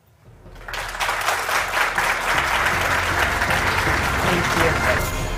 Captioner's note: applause